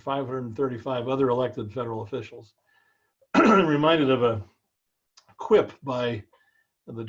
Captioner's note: cough